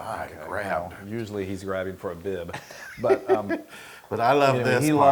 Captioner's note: laugh